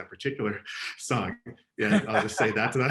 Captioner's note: laughing